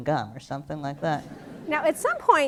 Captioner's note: laughter